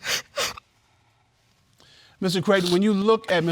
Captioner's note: crying